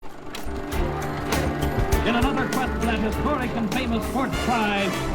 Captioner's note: movie projector hums